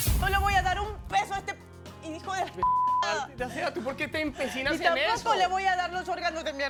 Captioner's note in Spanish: Bip